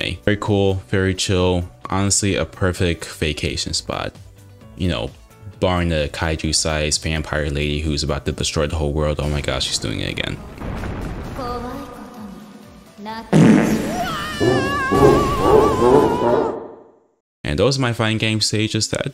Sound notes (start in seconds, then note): 13.3 SFX:Echo-y fart; 13.7 SFX: Mario yell from Super Mario 64, followed by Bowser laugh